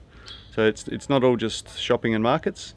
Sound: bird chirps

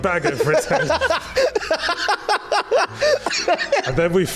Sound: laughs

